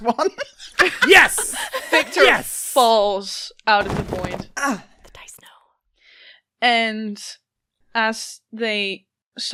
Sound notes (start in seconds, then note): 0.0 laughter; 5.0 whispers